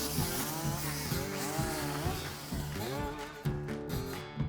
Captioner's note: chainsaw buzzing; upbeat music